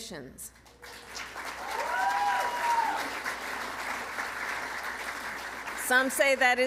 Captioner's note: applause